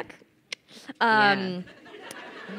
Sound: crowd laughing

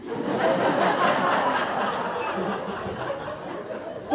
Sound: crowd laughs

